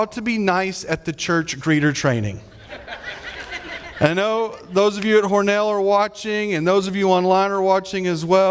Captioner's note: audience laughing